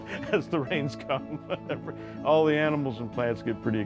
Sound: laughing

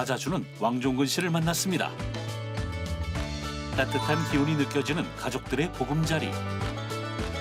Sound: voiceover

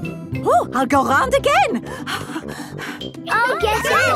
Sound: puffing

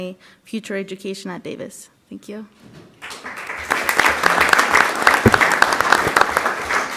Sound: applause

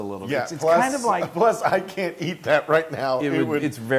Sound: laugh

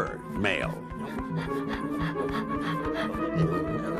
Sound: breathing heavily

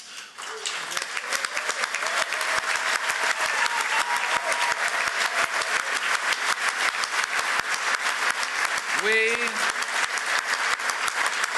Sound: cheers & applause

